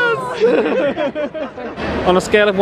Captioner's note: laughing